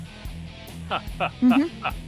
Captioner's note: laughing